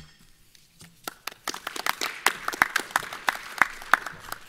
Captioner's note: clapping